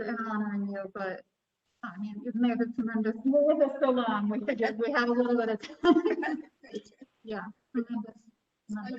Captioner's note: laughter